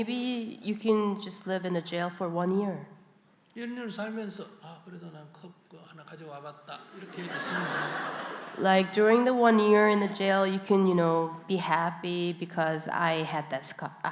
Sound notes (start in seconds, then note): 9.8 audience Laughter